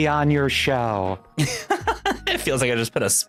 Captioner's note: laughs